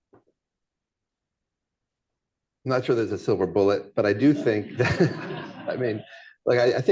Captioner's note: laughter